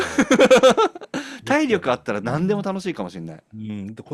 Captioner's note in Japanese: 笑い